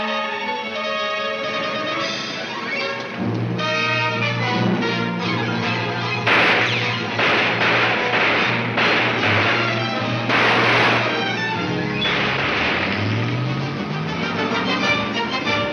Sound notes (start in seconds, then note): 4.7 guns fire; 12.0 car engine revs